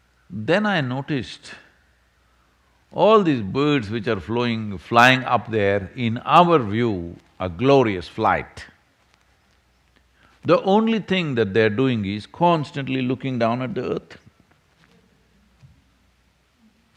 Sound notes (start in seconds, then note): none